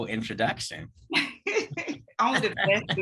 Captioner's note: laughs